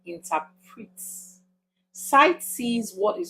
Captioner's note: paause